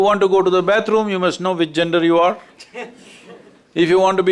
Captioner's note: few Laugh